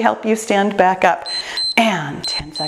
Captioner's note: timer beeps